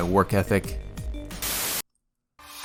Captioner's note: static